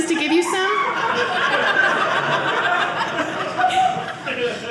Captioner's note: audience laughing